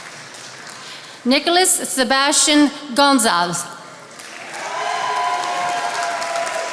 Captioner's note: attendees applauding